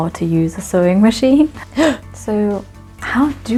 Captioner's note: shocked gasp